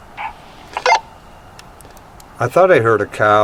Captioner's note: radio beeping